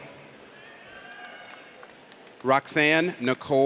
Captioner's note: audience cheers